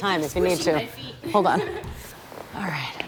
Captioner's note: chuckles